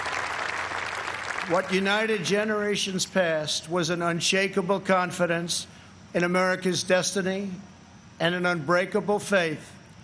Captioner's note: applause